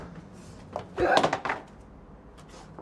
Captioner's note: grunts and painting hits the floor